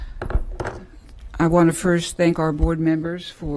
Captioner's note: sounding gavel